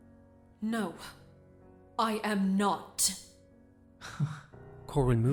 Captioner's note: Corwin chuckles